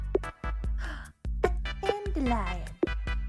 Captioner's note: gasp